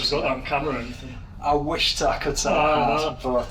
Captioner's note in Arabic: يضحك